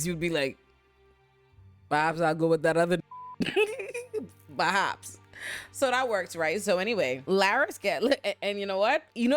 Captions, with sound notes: You'd be like, bops, I'll go with that other. (beep) Bops. So that works, right? So anyway, Lara's get lit. And you know what?